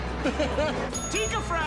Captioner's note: John laughs; bell dings